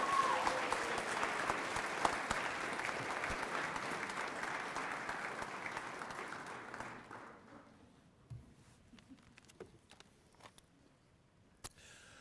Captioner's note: applause